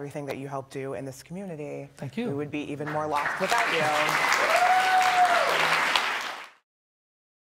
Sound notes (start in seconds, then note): 4.4 audience clapping